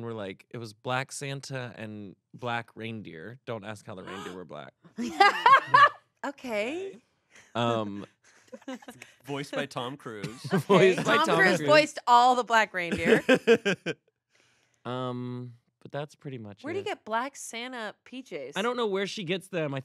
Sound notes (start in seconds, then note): 4.0 laughs; 12.8 laughs